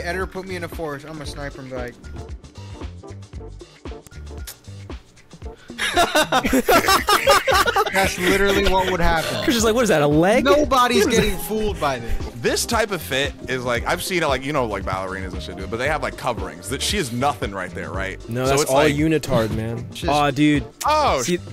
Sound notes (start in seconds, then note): 5.7 laughing